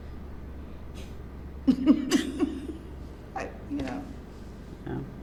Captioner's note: laughs